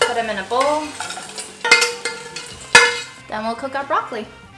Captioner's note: sound of bowls clacking together